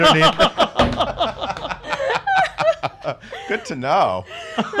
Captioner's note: everyone laughs